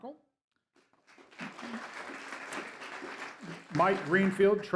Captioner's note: applause